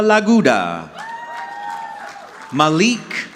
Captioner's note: audience clapping